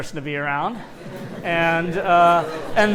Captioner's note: laughter